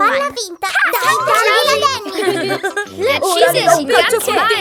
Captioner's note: laughs